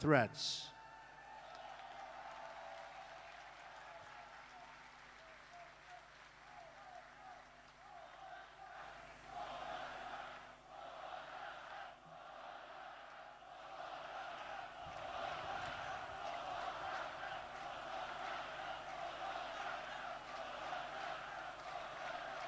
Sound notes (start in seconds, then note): 7.5 applause